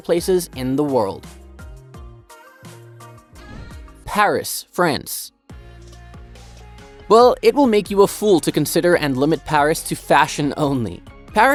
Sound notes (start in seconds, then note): 0.0 bright music continues; 3.4 air whooshing; 5.4 bright music continues